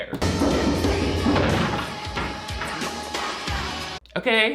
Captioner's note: crashing